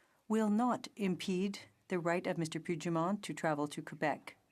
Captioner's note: none